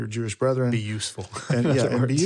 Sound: laughs

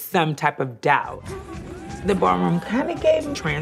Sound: cheering

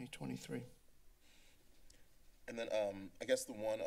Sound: silence

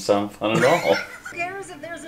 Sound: wheezing laughter

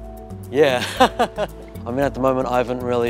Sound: laughs

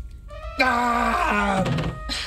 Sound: groans; Igor thudding to floor

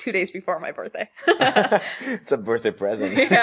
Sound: laughter

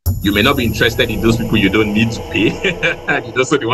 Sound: laughs

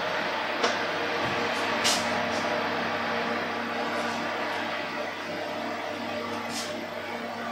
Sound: oven roarin again

